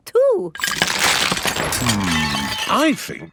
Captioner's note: cracking